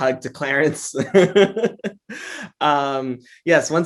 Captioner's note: laughs